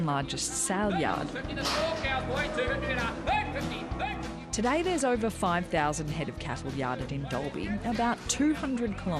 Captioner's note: auction ambience